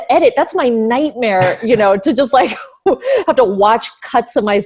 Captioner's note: laughs